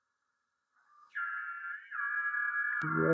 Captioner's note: sirens